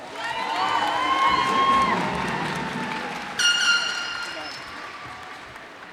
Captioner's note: cheers and applause